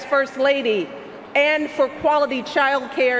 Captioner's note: none